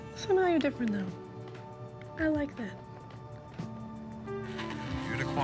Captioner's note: radio murmuring